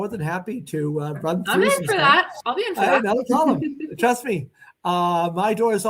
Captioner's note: laughter